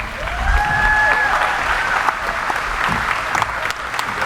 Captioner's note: audience applauding